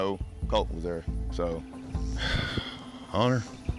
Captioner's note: sigh